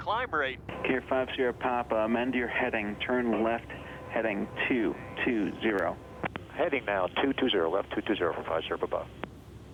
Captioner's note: radio Chatter